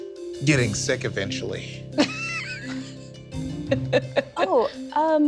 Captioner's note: laughing